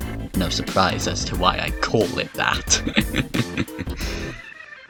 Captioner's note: chuckles